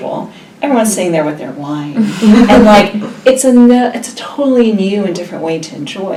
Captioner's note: laugh